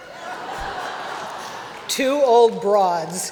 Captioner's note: laughter